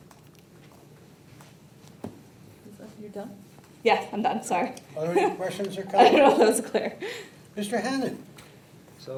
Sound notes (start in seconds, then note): 6.0 laughs